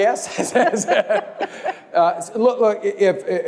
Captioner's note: laugh